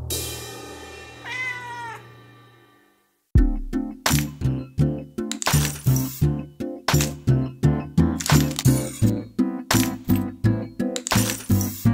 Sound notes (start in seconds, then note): 1.2 cat meows